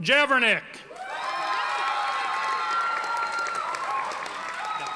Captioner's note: audience applauding